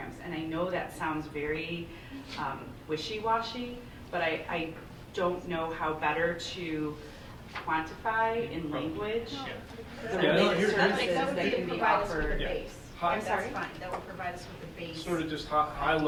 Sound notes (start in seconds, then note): 9.8 board members murmuring